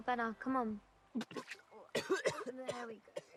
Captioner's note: Mark vomiting; Mark coughing